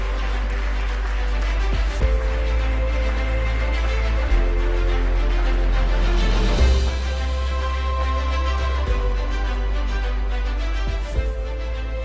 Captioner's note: applause